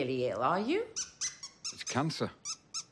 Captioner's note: toy squeaking